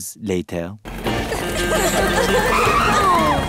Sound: giggling

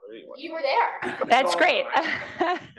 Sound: laugh

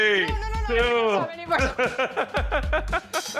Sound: laughing

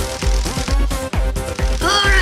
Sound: crackling electricity

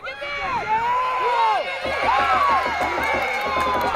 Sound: crowd cheering

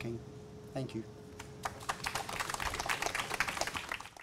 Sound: applause

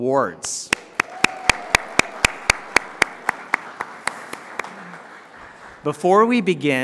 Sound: applause

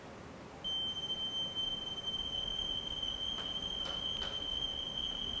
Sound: whistling

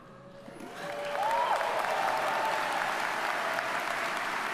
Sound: audience applauds

